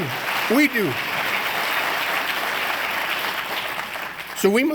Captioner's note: applause